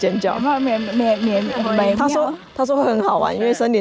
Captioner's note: so nervous I’m stuttering